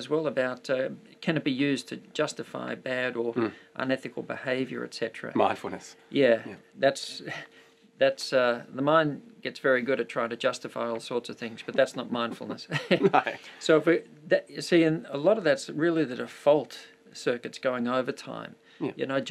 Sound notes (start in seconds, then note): 12.2 laughing